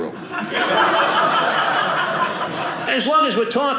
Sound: audience laughing

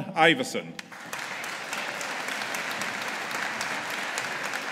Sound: audience applauding

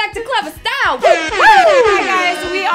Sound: air horns blaring

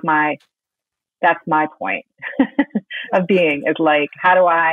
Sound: laughing

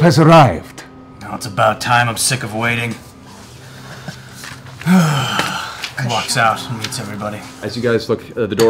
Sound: sighs

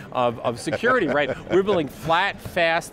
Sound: laughs

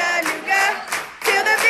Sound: clapping

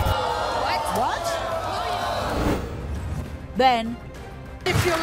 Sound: audience gasps

